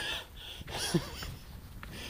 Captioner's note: chuckles inanely